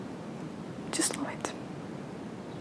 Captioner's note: whispers